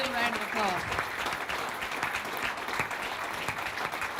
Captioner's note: applause